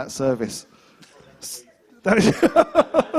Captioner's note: laughter